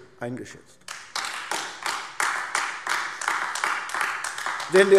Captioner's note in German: Beifall AfD